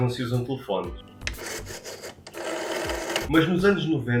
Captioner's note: telephone dialing